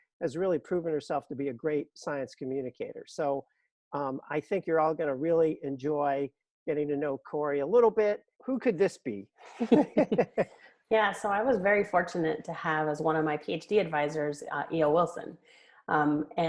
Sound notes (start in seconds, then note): 9.5 laughter